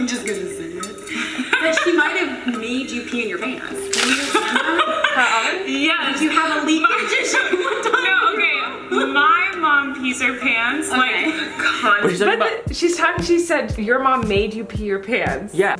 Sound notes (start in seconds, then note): 3.7 splashing sound